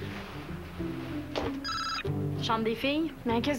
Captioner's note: Le téléphone sonne